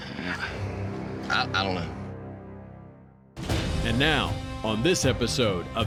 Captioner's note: sighs